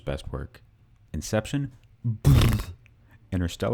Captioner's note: ptbthtbthtbth